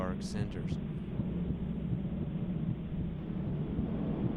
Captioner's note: throbbing